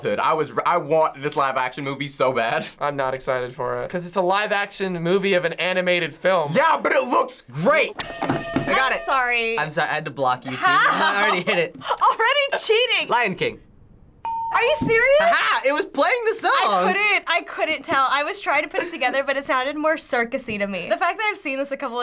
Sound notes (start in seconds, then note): 8.0 hitting bell; 14.2 ding